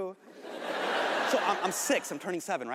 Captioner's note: audience laughing